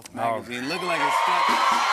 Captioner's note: cheering and applause